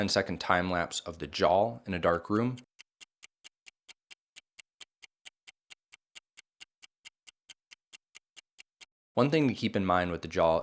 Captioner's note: clock clicking